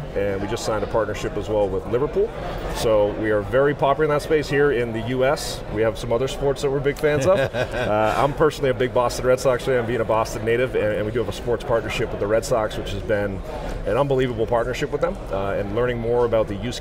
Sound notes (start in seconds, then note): 7.2 laughs